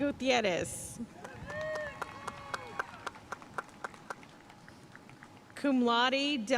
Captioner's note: audience cheering and applauding